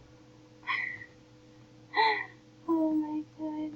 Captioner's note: laughing